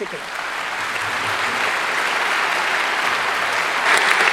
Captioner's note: crowd clapping